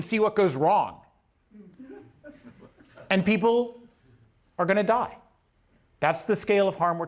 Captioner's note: laughter